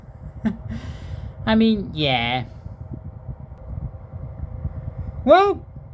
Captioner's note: fan noise